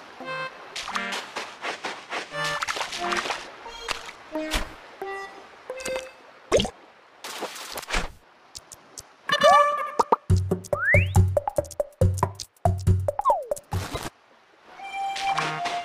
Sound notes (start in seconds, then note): 0.7 footsteps; 0.7 stepping into water